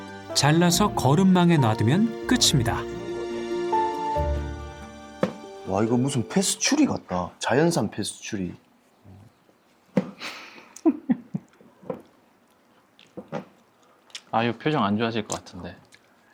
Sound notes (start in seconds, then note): 9.4 munching